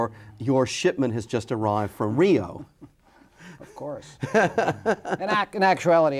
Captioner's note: laughing